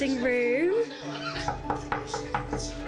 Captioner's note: knocking on door